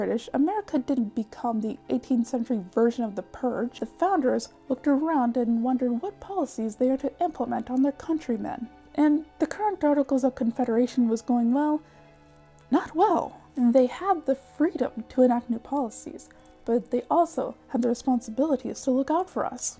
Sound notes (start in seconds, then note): none